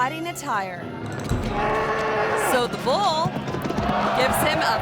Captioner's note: bull bellowing